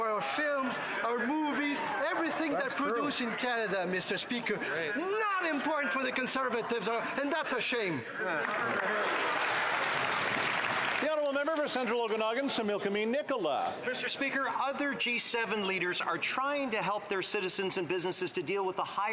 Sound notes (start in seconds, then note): 12.8 some Applause